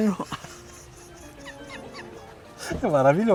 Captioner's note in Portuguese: risos